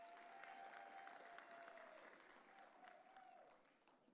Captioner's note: audience cheering